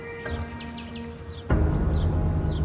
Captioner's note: birds chirping